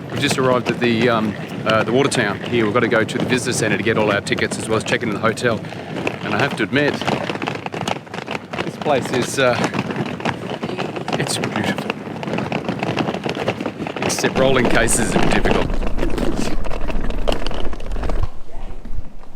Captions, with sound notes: We've just arrived at the Water Town here. We've got to go to the Visitors Center to get all of our tickets as well as check into the hotel and I have to admit (wheels rattling) this place is beautiful, except rolling cases is difficult.